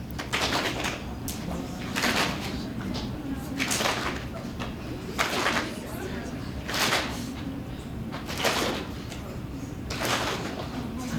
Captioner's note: clapping noises